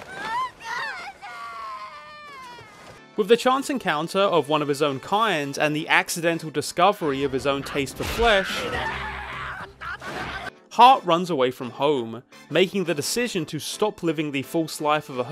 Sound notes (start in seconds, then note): 0.0 Heart sobbing; 0.2 Heart speaking in foreign language; 8.0 dinosaur yelling